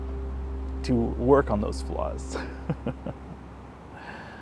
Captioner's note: laughs